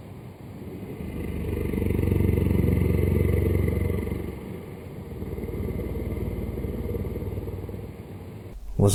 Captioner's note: creepy sound